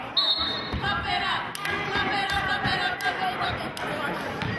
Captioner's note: whistling